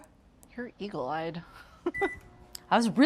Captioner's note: chuckles